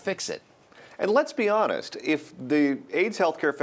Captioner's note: voiceover